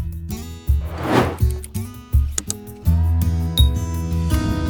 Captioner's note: banner whooshing